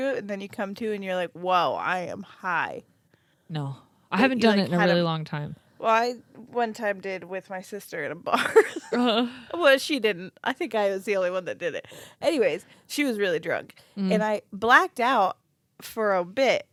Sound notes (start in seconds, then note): 9.1 laughs